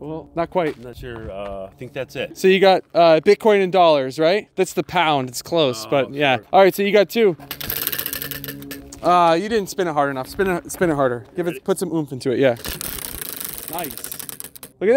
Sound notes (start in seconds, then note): 7.4 wheel whirring; 12.6 wheel whirring